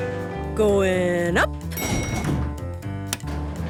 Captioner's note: elevator pings